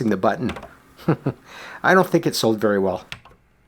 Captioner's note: chuckles